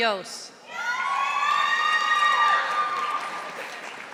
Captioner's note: audience applauding